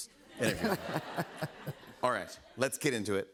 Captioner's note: laughter